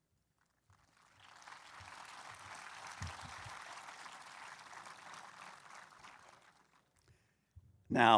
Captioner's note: applause